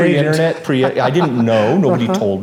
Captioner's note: laughs